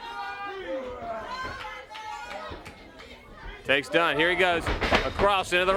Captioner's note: crowd chatter